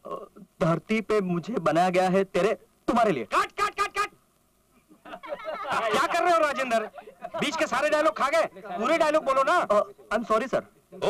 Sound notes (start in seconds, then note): 4.8 laughs